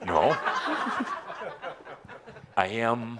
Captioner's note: laughter